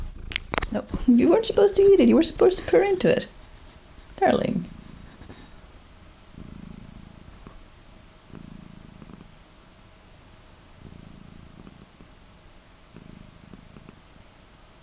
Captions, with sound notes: [Soot CHOMP] No, you weren't supposed to eat it, you were supposed to purr into it! ... darling. [Soft purrs of mischiveous satisfaction]